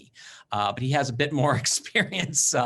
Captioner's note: laughing